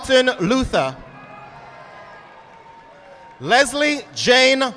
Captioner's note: audience applauding